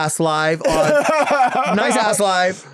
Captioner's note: laughing